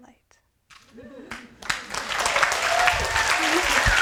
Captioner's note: applause